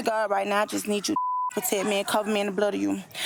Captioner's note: beep